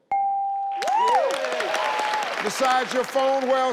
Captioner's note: audience applauding